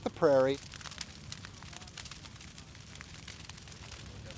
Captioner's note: fire crackling